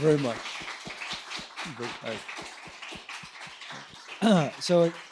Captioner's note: audience clapping